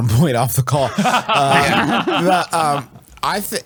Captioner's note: laughs